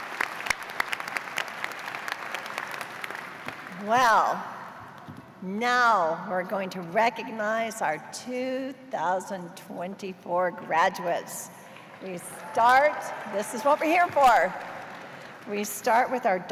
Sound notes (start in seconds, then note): 3.9 cheers and applause; 11.0 cheers